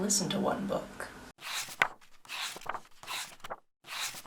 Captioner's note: pages turning